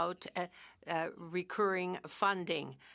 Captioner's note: speaking French